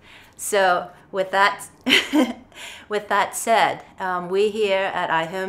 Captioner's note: chuckles